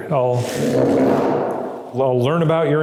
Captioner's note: chair scraping